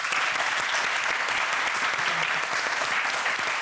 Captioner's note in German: Applaus